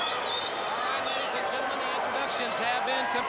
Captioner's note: crowd cheering